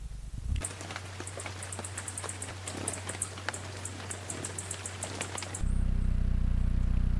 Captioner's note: birds chirping; rainfall; bird's wing flapping